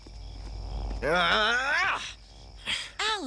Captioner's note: grunts